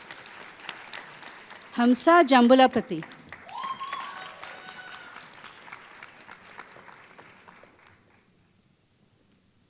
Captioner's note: applause